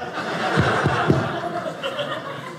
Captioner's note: audience laughing